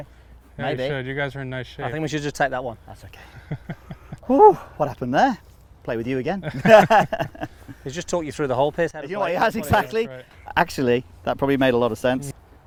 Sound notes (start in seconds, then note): 3.2 laughing; 6.4 laughing